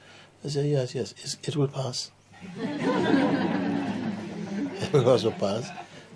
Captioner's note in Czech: smích